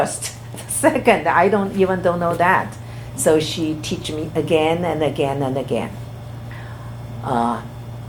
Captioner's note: laughs